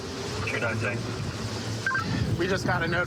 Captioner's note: radio communication